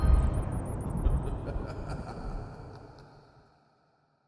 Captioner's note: spooky magical outro music; evil laughter sound effect